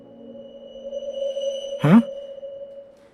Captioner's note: a ghostly noise